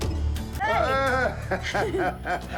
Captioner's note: both laugh